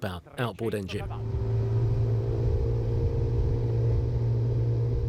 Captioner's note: boat engine roaring